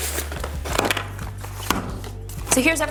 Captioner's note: bag crinkling